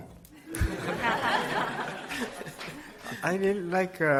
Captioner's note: audience laughs